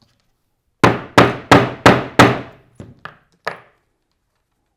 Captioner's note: mallet thudding